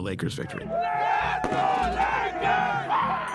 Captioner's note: cheering; bang